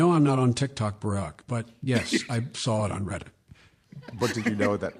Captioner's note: laughter